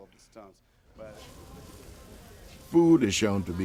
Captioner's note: meat sizzling